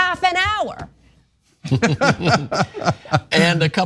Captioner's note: laugh